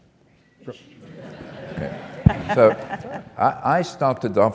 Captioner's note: laugh